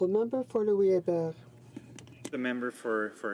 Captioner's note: speaking French